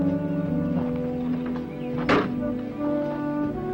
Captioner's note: door thuds close; gentle music